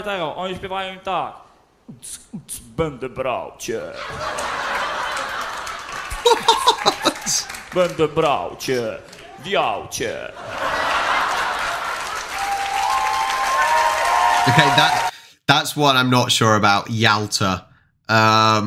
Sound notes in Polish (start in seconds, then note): 14.7 Aplauz